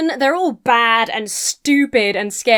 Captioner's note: none